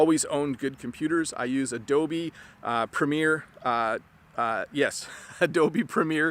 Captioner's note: laughs